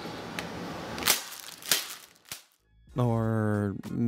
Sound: plastic smacking

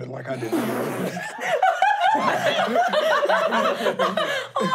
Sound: laughing

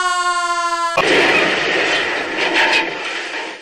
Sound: c r a s h!

